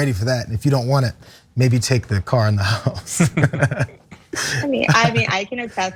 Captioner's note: laugh